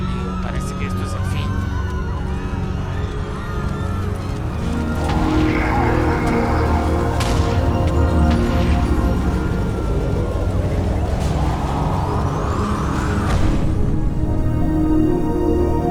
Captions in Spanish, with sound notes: Oh amigo... creo que esto es el fin. (gritos...)